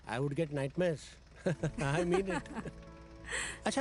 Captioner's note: Shravanya laughs